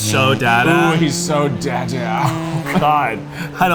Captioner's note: chuckles